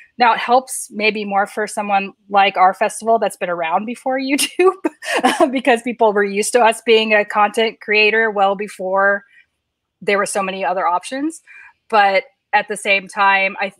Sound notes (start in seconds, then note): 5.0 laughs